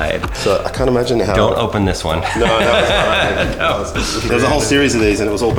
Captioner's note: laughs